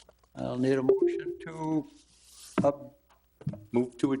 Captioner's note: electronic chime